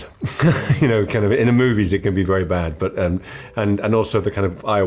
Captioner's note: laugh